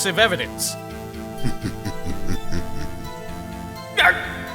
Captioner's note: chuckling